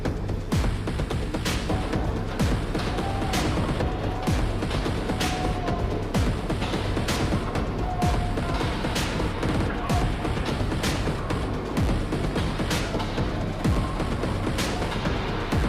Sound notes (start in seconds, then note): 2.9 shouting; 6.4 techno music continues